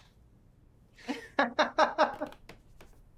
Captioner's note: both laugh